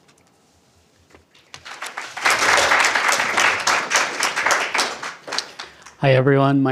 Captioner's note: applause